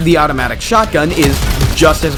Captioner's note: chunk